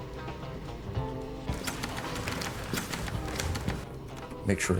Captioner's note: typewriter clacking